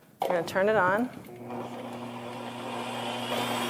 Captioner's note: whisking